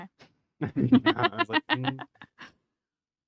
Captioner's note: laughter